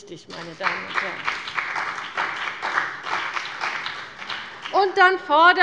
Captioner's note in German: Beifall bei dem BÜNDNIS 90/DIE GRÜNEN und der CDU